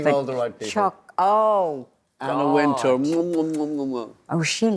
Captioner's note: kissing noises